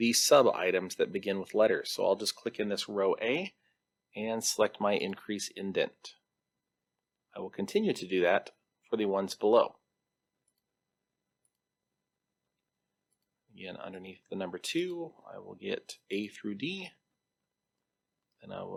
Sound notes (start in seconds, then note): 10.4 mouse clicks